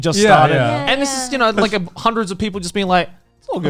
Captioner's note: group agreeing